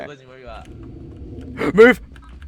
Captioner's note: rumbling Sounds